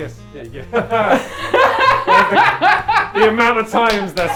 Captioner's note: laughing